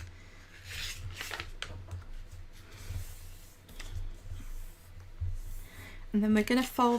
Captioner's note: paper rustling